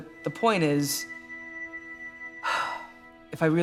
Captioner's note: sighs